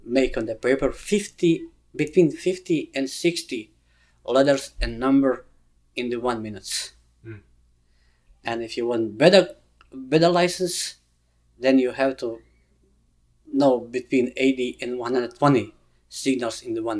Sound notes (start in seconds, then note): none